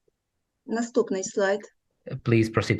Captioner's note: foreign Language